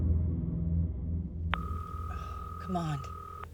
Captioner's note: phone ringing